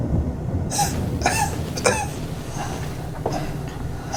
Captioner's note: Miles coughs